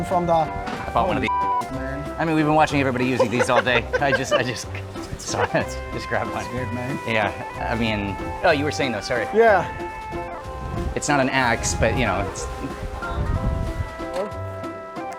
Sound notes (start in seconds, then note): 2.6 laughing; 8.3 more laughter